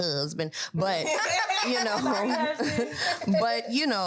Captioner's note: all laugh